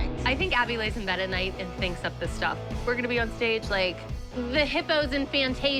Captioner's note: none